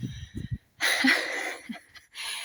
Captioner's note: laughing